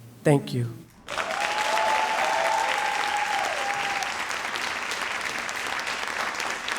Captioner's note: audience cheering and applauding